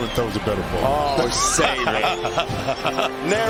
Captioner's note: laughter